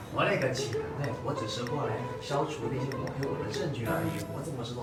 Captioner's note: slowed down his speaking